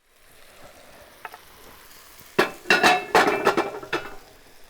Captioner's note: ingredients sizzling